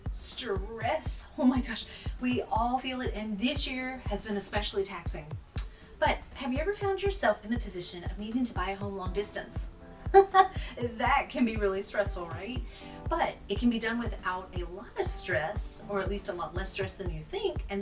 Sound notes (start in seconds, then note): 10.1 chuckles